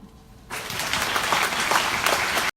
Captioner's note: audience applauds